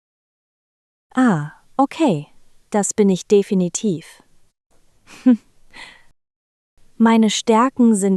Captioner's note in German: lacht